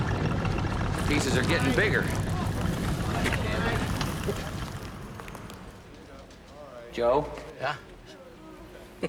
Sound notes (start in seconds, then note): 0.0 rain pattering; 6.7 all laughing